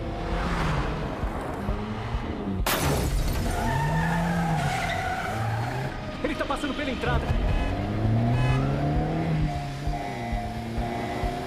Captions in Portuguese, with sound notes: [ PNEUS CANTANDO ] ELE TÁ PASSANDO PELA ENTRADA [ BUZINA SOANDO ]